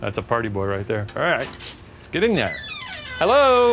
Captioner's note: door creaks